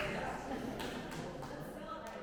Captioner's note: applause